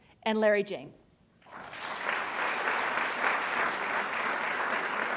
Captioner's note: audience clapping